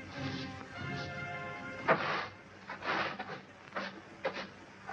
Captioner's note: broom scraping